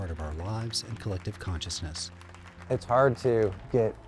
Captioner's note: clapping